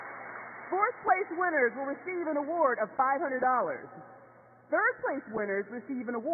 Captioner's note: cheers and applause